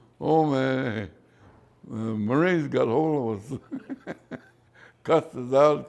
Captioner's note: laughs